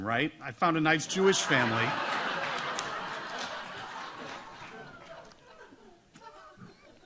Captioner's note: audience laughs